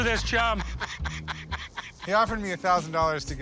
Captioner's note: laughing